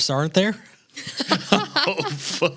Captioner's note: laughing